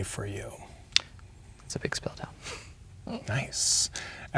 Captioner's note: chuckles